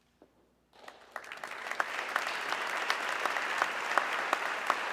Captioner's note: audience clapping